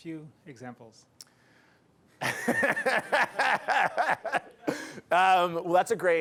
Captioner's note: laughter